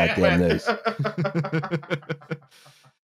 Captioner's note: laughter